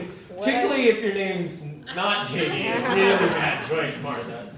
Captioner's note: laugh